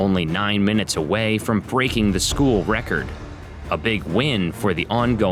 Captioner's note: none